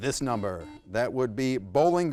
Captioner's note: buzzer buzzes